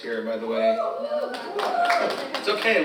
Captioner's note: audience cheers; audience applauding